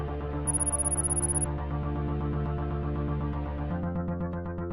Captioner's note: computer bleeps rapidly